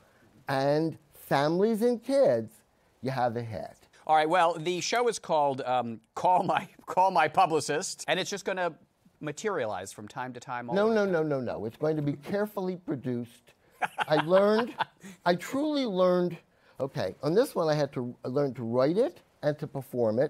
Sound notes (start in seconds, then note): 13.8 laughs